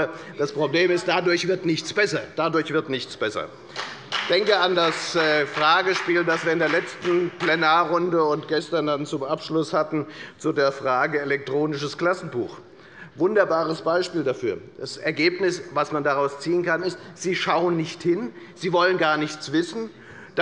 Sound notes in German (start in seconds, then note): 3.6 Beifall bei der FDP